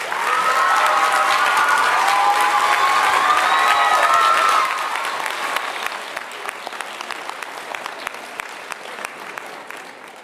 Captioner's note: applause and cheers